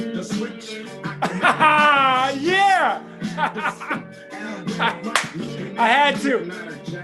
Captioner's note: yelling